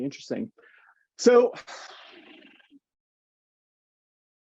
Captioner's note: sighs